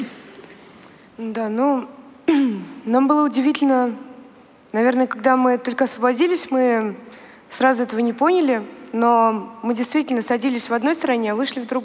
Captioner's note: foreign Language